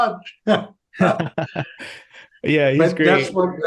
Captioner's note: both laughing